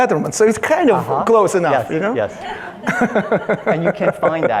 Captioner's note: laughs